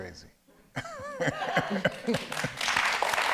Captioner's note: audience laughs; audience applauds